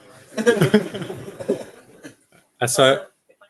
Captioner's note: laughter